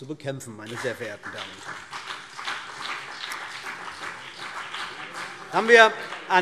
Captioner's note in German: Beifall BÜNDNIS 90/DIE GRÜNEN und vereinzelt CDU